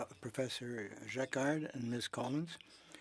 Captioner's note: speaking French